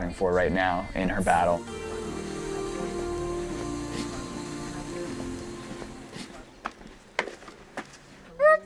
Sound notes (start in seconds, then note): 3.3 footsteps plodding